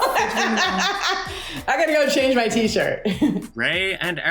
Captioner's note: laughs